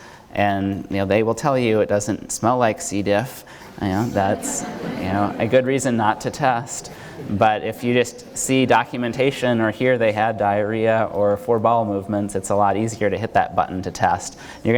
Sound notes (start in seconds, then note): 3.8 audience laughs